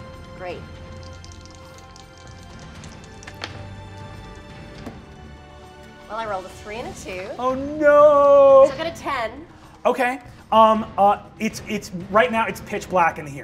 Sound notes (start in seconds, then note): 0.9 dramatic music; 0.9 dice rattle